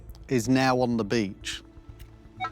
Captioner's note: beeping